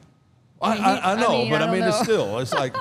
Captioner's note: laughs